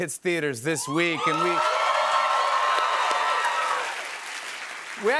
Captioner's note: cheers and applause